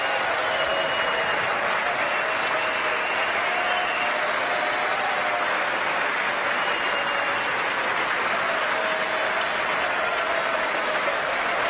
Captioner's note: applause